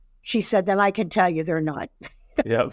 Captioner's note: laughing